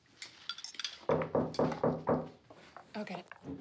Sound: knock on the door

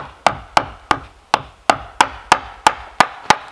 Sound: pounding

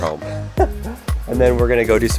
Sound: laughs

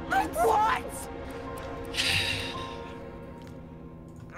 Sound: sighs

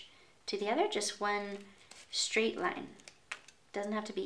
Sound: scissors snipping

